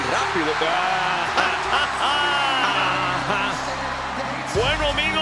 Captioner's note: laugh